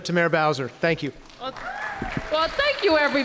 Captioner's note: applause